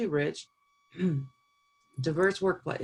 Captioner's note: clearing throat